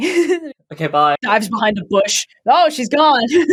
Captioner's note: laughs